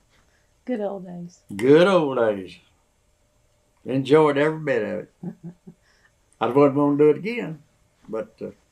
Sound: laughs

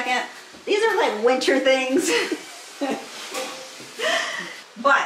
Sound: laughs

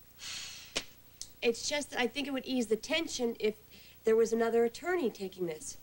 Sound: sighs

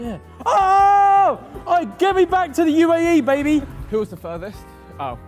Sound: yells

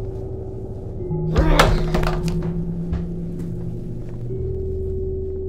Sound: ominous music continues; gamer groans; controller clatters; ominous music continues

